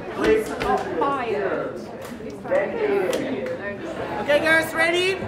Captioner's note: backstage chatter